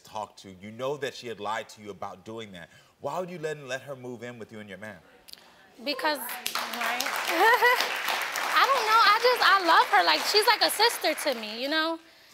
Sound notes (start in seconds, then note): 6.2 audience applauds; 7.2 laughs